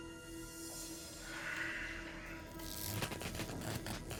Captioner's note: static sound